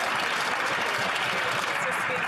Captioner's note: some Applause